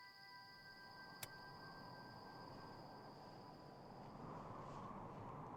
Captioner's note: wind blowing